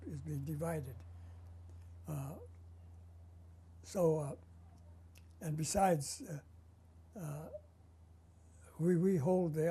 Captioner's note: pauses for 3 seconds